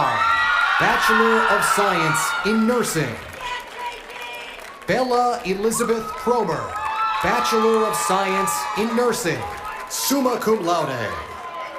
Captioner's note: cheers and applause